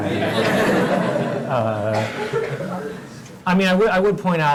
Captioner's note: laugh